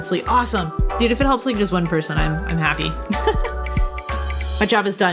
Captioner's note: laughs